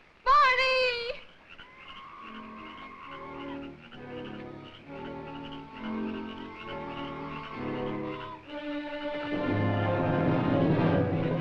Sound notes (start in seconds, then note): 1.2 bird screeching; 8.6 intense music